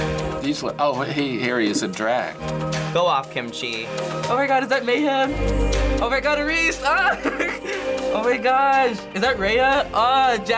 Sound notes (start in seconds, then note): 7.1 laughs excitedly